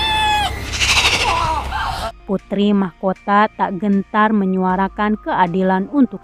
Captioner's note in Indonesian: berteriak